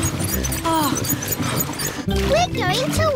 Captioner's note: groans